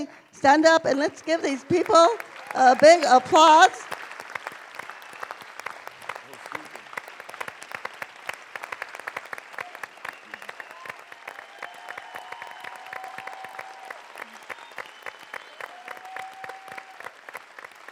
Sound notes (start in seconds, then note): 3.5 applause